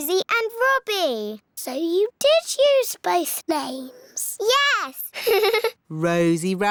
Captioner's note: laughs